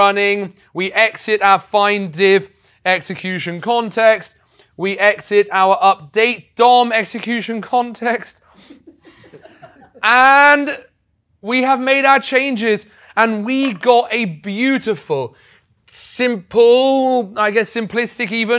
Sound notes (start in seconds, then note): 8.6 laugh